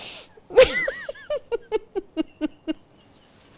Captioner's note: laughs